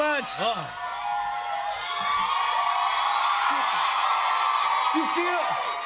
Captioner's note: cheers and applause